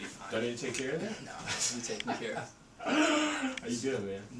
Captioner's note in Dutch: Drew lacht